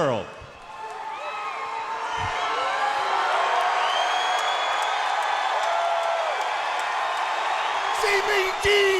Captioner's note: crowd cheering